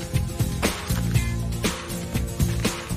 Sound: camera click

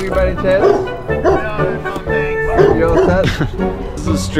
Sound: dog barks

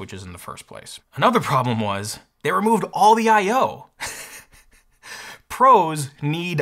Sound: chuckles

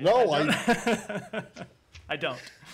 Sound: laughter

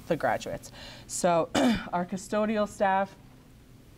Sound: clears throat

